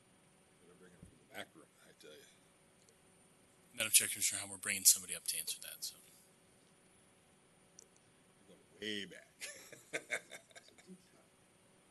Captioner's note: laughter